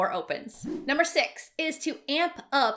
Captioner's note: swishing